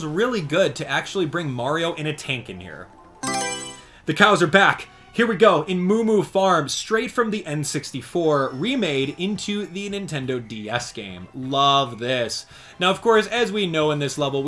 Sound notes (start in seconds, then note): 3.2 Mario Selection Sound